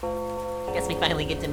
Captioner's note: ominous Doorbell